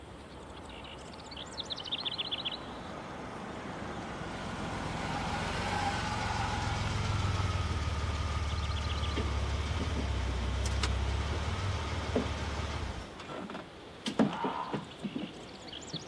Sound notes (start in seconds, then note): 7.6 birds chirping; 7.6 engine puttering